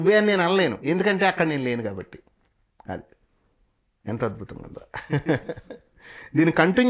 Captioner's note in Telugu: నవ్వు